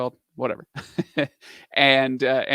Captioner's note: laughs